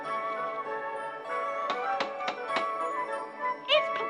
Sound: knocking on door

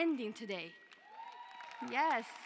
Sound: cheering

